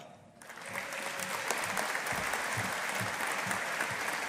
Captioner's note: audience applauding